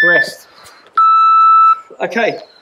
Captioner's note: beep